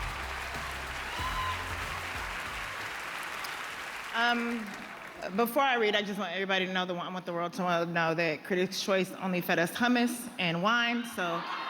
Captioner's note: cheers and applause